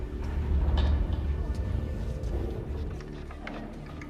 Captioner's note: footsteps echoing